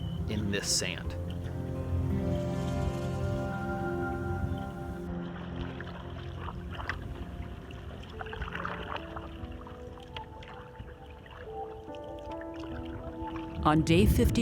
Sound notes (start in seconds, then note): 5.4 tranquil music; 11.9 water splashing